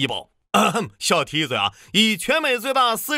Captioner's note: ahem